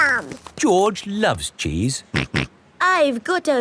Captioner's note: snorts